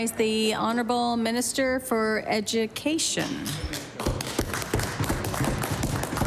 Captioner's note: applause